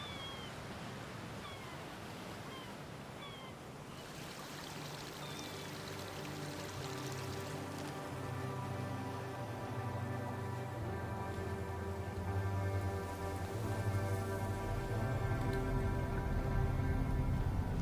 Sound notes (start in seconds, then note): 0.0 seagulls crying; 4.5 waves lapping